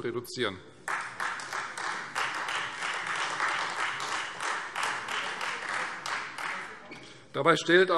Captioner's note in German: Beifall Freie Demokraten